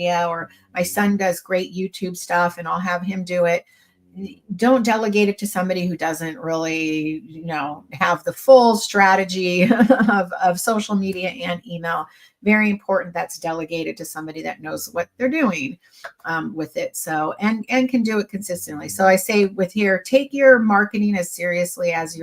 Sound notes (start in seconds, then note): 9.6 chuckles